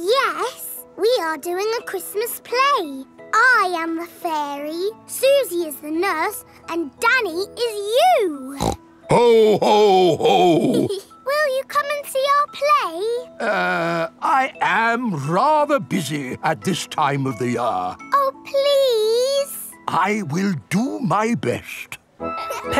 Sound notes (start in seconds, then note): 8.5 snorts; 10.0 giggles